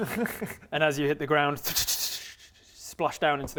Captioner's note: tss tss tss tssh